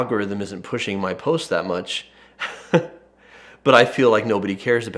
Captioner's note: chuckles